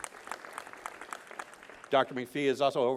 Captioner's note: applause